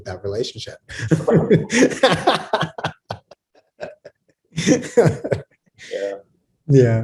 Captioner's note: laughs